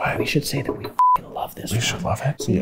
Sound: beeps

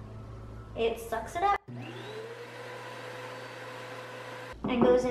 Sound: vacumm noise

